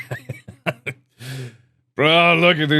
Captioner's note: laughs; inhales